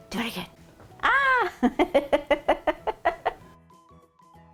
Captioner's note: laughing